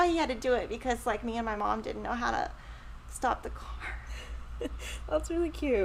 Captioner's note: chuckles